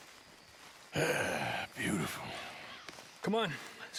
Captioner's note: sighs